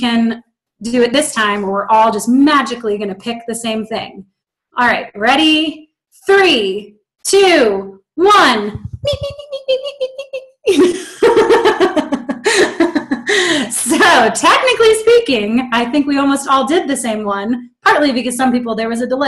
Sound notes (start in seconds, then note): 7.7 giggling